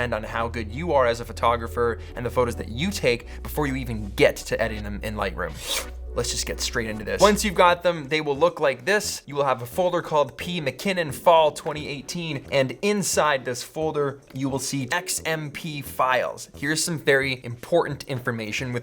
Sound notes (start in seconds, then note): 3.0 sucking sound